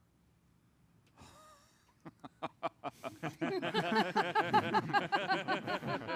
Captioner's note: laughs